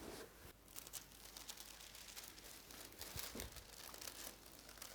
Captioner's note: paper rustling